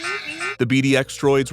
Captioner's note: beeps